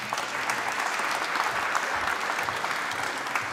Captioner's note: applause